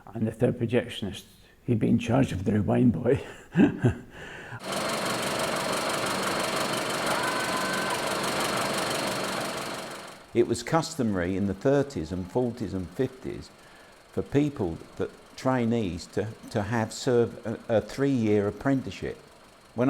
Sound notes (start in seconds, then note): 4.2 laughs; 4.7 film reel spins